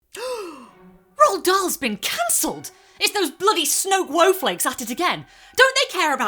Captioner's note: gasp